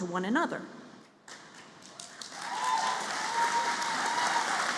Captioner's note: applause